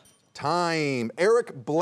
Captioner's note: bell dinging